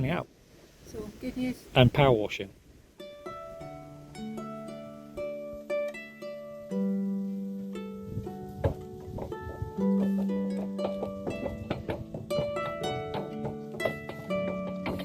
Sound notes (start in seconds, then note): 10.0 clopping hooves